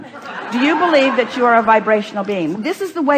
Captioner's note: the audience laughs